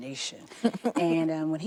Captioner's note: laughs